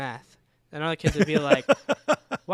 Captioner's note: laughing